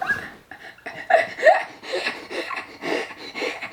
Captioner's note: laughing